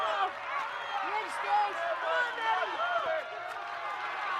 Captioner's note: crowd chattering